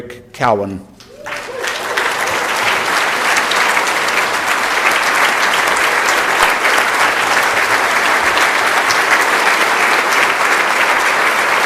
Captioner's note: applause